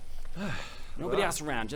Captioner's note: sigh